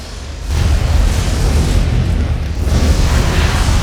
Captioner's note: explosions